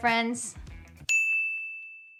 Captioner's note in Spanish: suena la campana